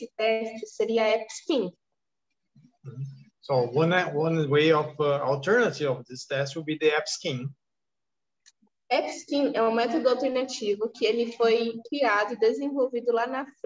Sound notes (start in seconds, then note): 9.7 speaking portuguese